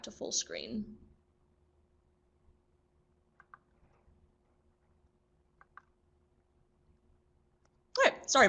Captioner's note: No sound - presenter fixing Google captions